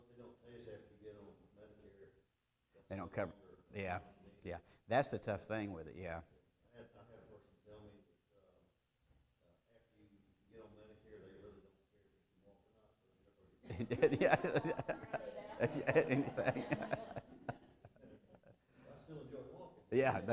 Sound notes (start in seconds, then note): 13.6 multiple people talking and laughing; 13.6 laughter